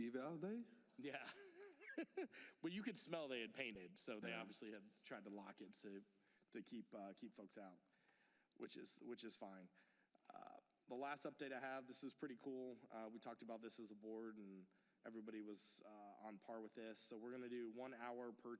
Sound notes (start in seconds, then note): 3.5 laughter